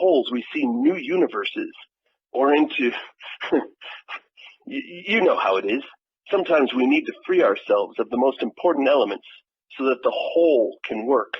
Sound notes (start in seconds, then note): 2.8 laughs